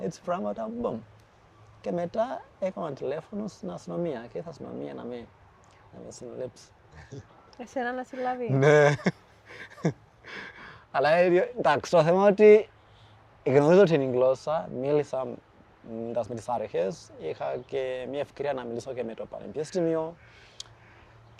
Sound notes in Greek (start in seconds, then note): 9.4 γέλια